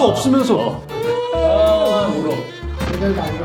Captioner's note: crying out loud